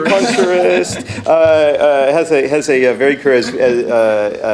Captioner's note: audience laughing